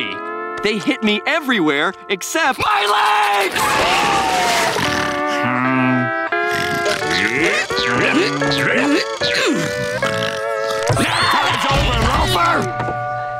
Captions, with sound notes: They hit me everywhere except my leg! [snoring] [grunting] [screaming]